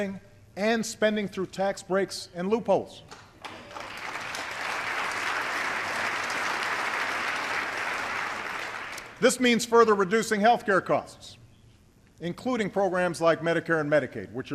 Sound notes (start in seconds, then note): 7.0 applause